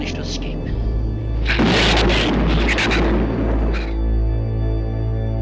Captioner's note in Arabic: انفجار قوي